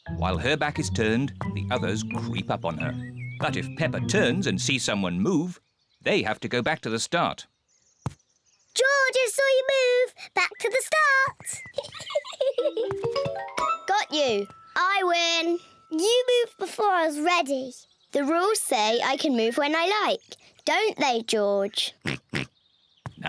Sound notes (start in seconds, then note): 11.7 giggles; 22.0 oinks